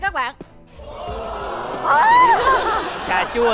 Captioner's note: laughing